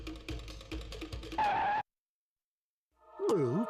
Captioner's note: skidding; gulps